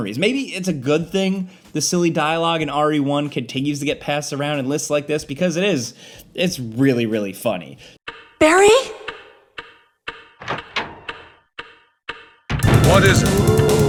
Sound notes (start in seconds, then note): 10.1 object ticking; 12.6 robust music